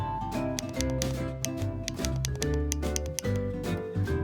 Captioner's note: happy music continues; lego blocks clacking; happy music continues